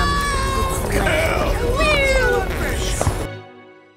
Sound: cheering Citizens

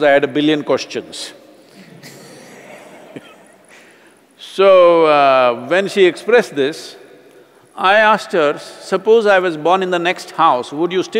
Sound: laughs

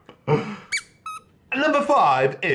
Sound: laughing; fast squeak

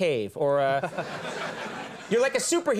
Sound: audience laughs

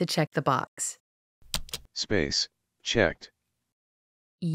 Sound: voiceover

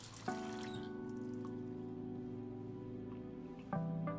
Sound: faucet running

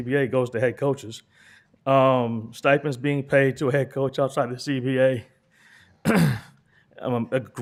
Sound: clears throat

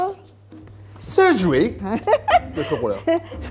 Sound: pity laugh

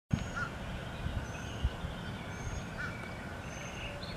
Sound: birds chirping

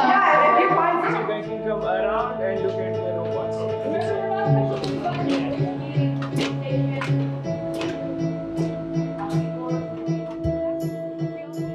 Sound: general chatter

